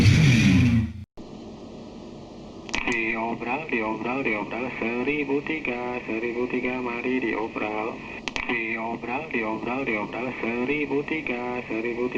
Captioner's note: sound of speaker